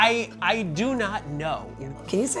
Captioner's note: stammers